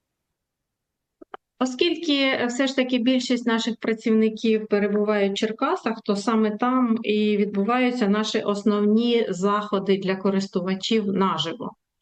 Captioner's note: foreign language